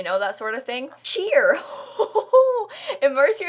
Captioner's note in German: Aufregung